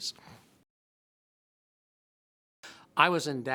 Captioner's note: silence